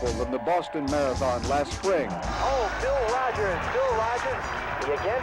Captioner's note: man over TV